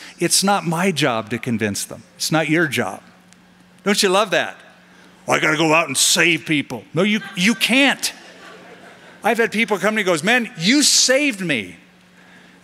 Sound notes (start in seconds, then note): 7.0 laughter